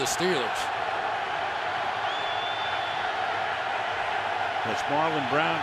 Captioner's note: crowd cheering